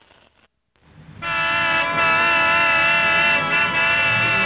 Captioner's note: horns blaring